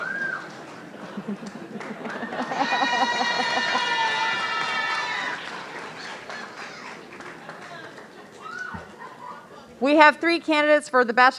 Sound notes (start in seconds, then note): 0.5 audience laughing; 3.9 audience cheering and murmuring